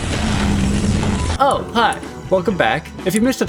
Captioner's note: construction noises